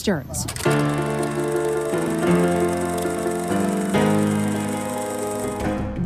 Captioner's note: projector rattling; dramatic music